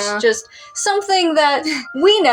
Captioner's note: chuckle